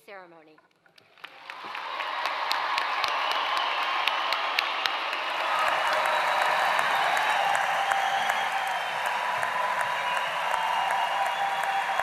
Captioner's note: applause